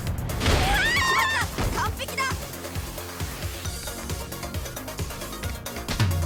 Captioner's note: upbeat music; character screams; character speaks Japanese